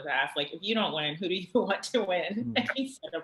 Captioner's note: laughs